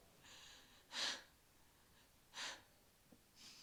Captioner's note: sobs